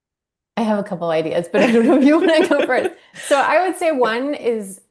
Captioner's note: laughter